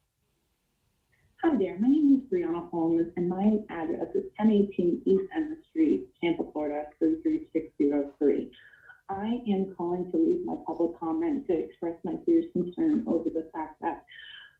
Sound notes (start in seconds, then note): 11.3 distortion